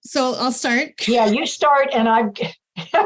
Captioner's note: laughter